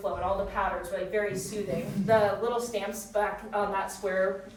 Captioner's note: none